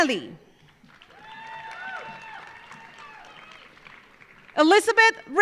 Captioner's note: audience applauding; audience cheering